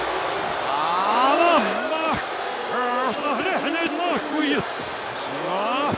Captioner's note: audience cheers; announcer speaks in foreign language